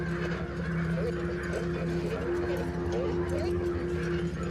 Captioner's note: crows cawing